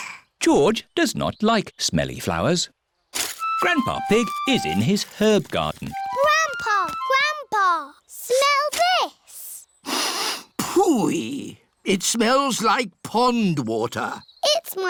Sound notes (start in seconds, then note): 0.0 sniffs; 9.8 sniffs